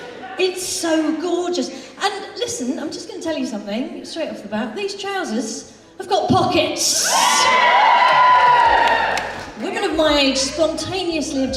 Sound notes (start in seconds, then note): 7.6 audience Applause